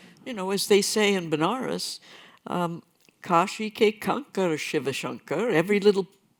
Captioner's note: non-english speech